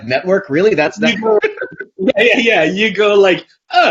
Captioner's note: both laugh